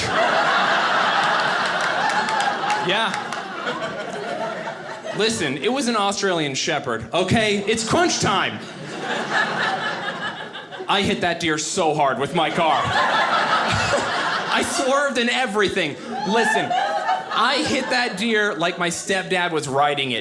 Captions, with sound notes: (audience laughing) Yeah. (audience laughing) Listen, it was an Australian shepherd, okay, it's crunch time! (audience laughing) I hit that deer so hard with my car. (audience laughing) I swerved and everything. Listen, I hit that deer like my stepdad was riding it.